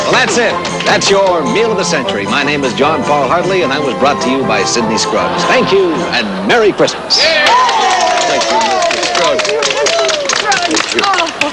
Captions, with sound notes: Well, that's it. That's your meal of the century. My name is John Paul Hartley and I was brought to you by Sidney Scruggs. Thank you and Merry Christmas! [all cheering] - Thank you, Mr. Scruggs.